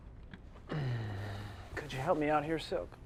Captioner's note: uncomfortable sigh